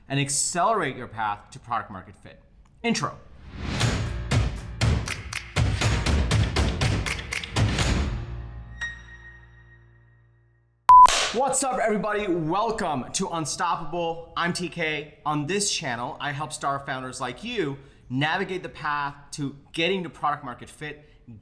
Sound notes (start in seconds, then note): 4.0 funky music; 10.9 beeping